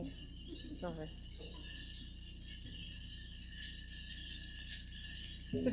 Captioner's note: jingling